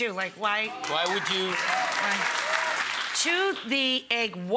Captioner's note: audience applauding